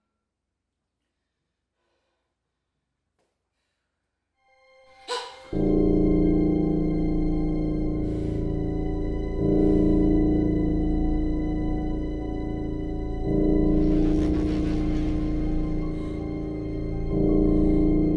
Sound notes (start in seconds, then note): 5.1 Jen gasps; 5.1 ominous music